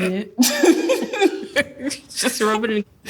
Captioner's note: both laugh